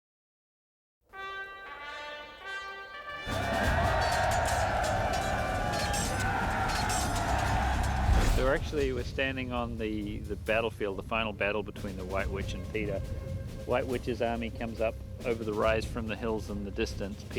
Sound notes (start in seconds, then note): 1.1 horn blowing; 3.2 all cheering